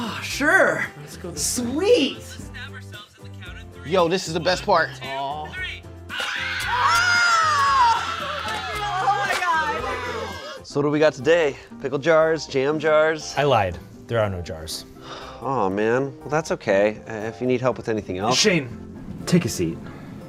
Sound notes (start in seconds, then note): 6.1 people screaming on video; 6.3 group laughing